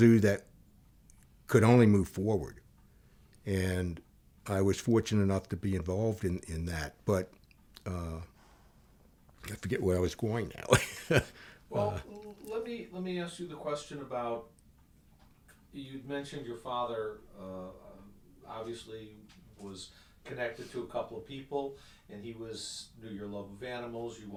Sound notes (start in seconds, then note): 10.5 chuckles loudly